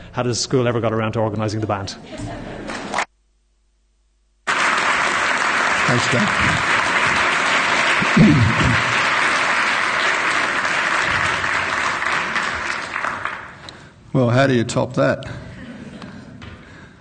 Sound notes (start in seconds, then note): 4.7 clapping